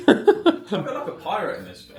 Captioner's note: laughs